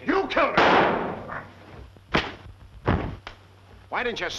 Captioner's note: gunshot